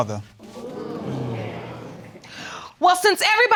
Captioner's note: audience murmuring